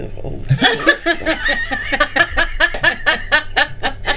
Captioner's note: group laughing